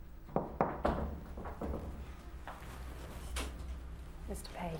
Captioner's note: knocking on door